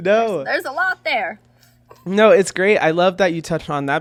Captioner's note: laughing